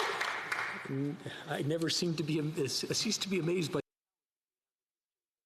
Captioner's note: some Applause